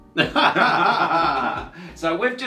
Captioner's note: laughing